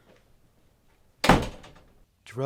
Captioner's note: door opens; door closes